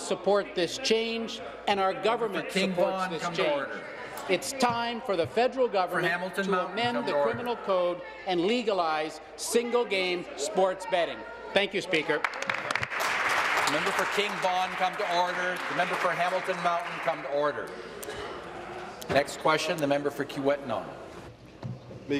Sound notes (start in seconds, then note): 15.2 applause